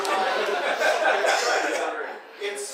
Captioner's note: audience laughing